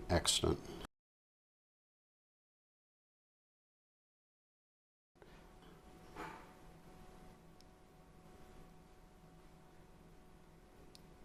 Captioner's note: silence